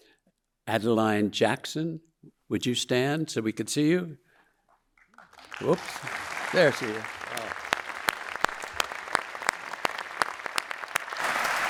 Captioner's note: audience applauding